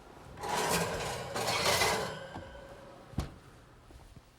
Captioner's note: metal clanging